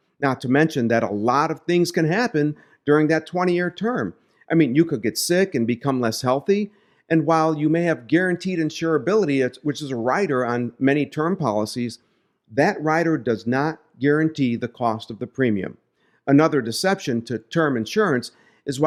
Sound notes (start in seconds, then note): none